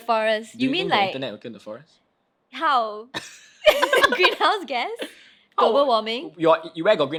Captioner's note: both laugh